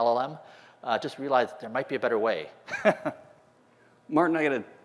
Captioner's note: laughter